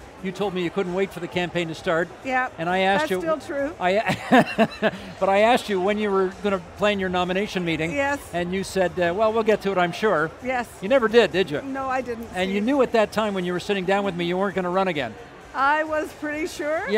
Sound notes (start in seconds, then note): 4.0 laughing